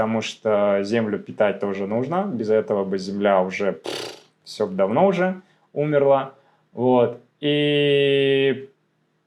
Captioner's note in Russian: фыркает